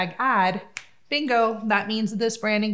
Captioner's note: snaps fingers